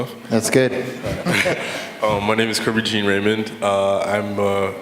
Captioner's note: laughter